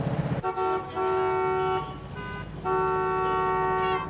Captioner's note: horns honking